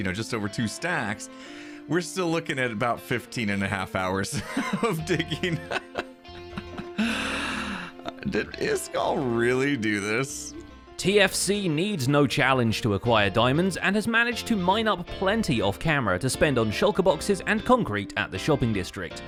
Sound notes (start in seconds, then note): 4.4 laughs